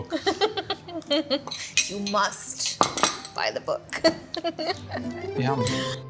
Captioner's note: laughs